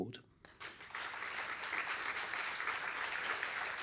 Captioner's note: applause